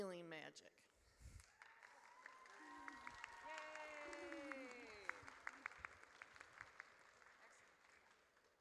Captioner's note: audience cheers